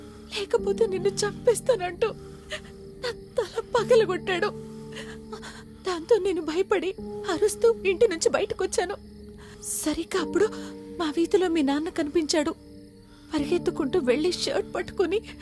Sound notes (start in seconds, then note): none